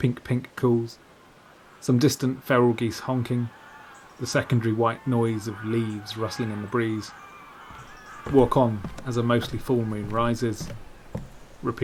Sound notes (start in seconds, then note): 3.1 noise of geese honking